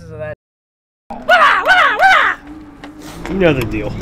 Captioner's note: man shrieks